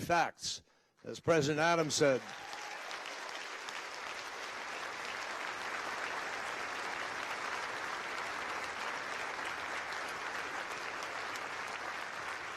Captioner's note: applause